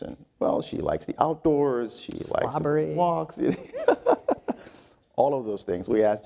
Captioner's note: laugh